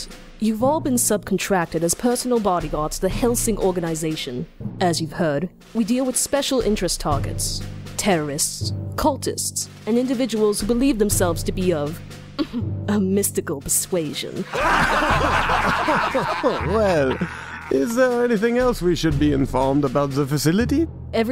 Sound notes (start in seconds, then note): 14.4 chortles; 14.4 laughing